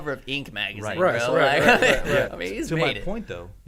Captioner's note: men laughing